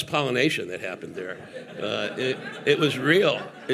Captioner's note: audience laughing